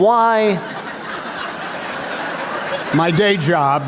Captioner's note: laughter